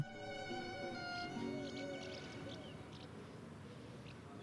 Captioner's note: birds chirping